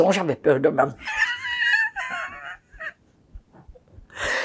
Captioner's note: laughing